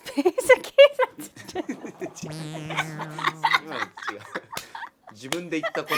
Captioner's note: laughing